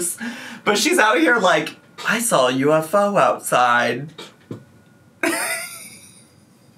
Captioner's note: laughs